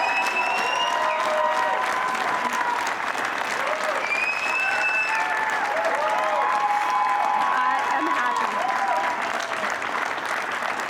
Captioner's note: cheering